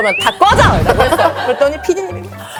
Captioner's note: sudden outburst